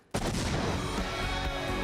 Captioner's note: explosion; enthusiastic music